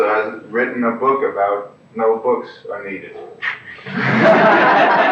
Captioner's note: laughter